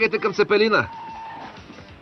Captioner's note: brakes screech